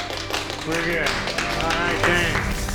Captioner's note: applause